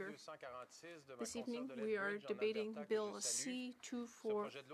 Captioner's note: speaking French